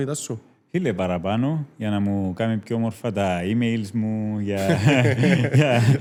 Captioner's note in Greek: γέλιο